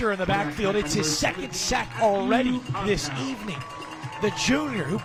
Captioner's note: applause